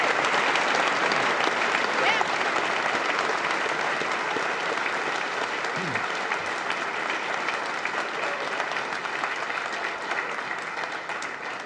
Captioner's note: applause